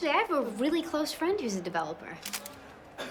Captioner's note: camera clicks